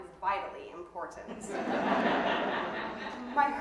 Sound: audience laughing

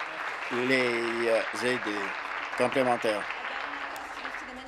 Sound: applause

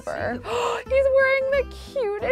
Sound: gasps

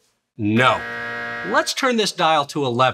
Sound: buzzer blaring

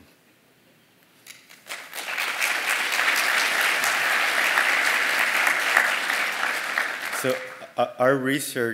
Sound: applause

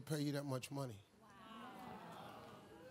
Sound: crowd

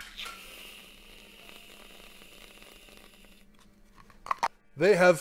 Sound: whipped cream hissing

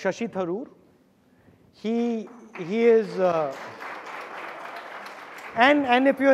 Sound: audience applauding

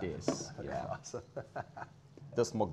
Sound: laughs

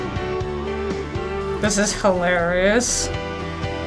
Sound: strained

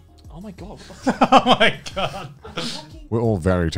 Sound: chuckling

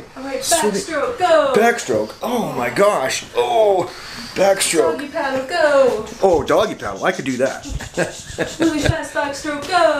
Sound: laughing

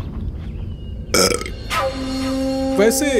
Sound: burps

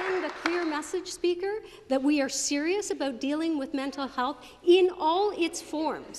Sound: applause

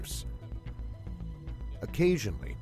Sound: voiceover

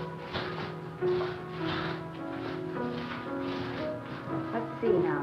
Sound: footsteps shuffling

